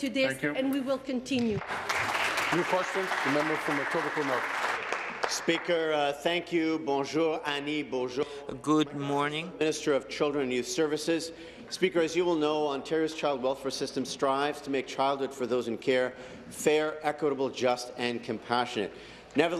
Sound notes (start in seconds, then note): 6.4 applause; 11.9 speaking in French